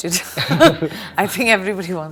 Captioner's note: laughs